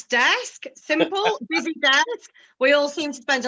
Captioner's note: speaking faintly